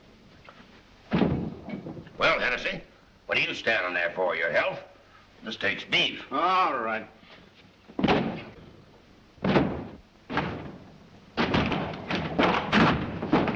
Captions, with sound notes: Well, Hennessy what are you standing there for, your health? - This takes beef. - Alright. [thudding] [door opens]